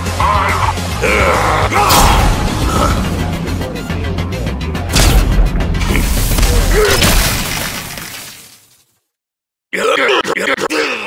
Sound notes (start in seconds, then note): 0.1 angry forest man growls; 1.0 angry forest man screams